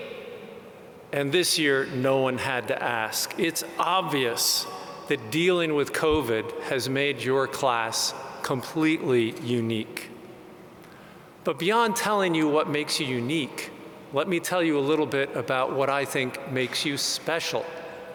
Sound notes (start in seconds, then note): none